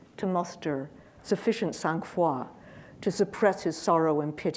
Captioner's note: speaking in foreign language